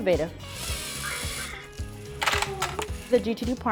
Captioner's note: toy car whirs